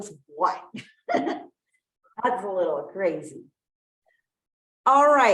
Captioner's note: laughs